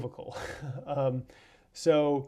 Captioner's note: laughs